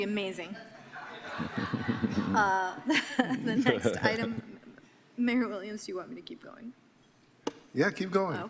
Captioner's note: guffawing